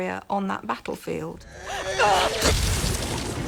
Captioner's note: grunts